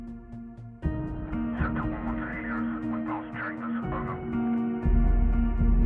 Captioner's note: radio